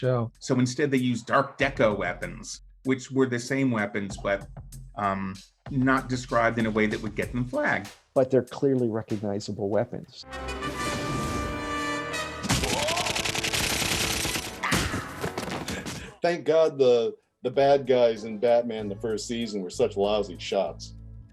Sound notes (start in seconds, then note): 12.4 gun fire; 14.4 man yells